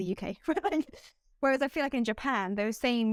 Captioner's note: laughter